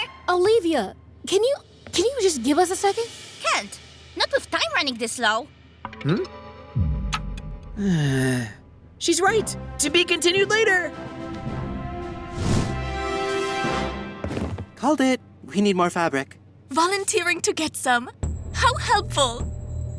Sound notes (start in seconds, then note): 7.7 sighs